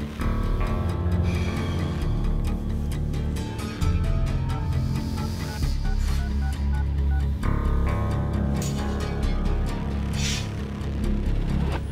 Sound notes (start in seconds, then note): 4.5 cell phone dialing